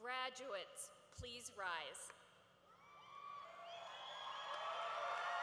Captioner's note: cheering